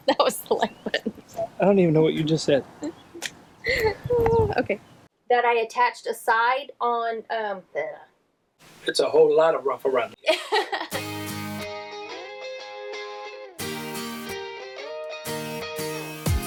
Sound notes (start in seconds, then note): 3.6 laughing; 10.2 laughing; 10.9 upbeat music